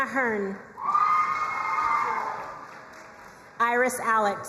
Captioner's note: crowd cheering and applauding